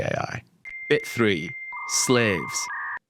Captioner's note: voiceover